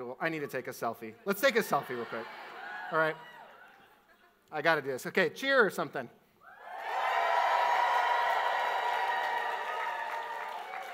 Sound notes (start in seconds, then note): 6.5 audience cheers